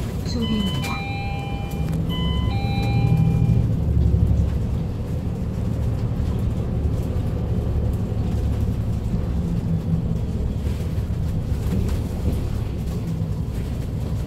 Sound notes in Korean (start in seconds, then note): 0.4 하차벨 소리